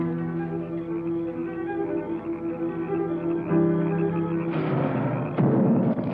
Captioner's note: insects chirping; frogs croaking; thudding